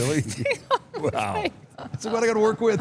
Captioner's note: laughs